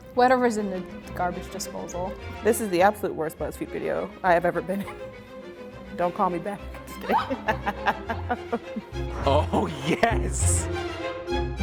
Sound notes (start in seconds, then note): 6.8 laughing